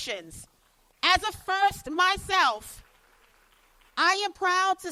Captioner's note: applause